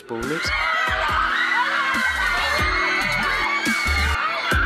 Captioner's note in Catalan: xiscles i cridòria